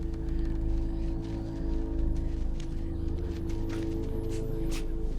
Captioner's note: footsteps scampering